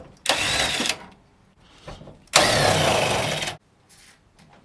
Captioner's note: drill buzzing